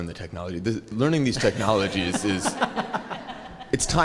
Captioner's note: laugh